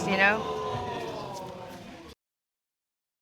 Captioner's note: audience exclaims